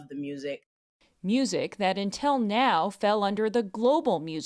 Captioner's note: voice-over